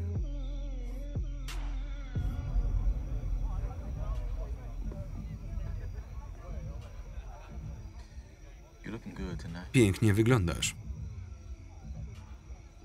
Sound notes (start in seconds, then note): 3.5 chattering